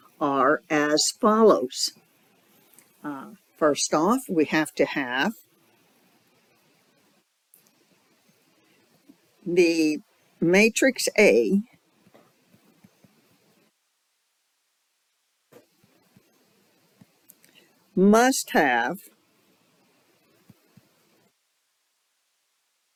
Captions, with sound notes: are as follows. Uh, first off we have to have... the matrix A... [6-second silence] must have...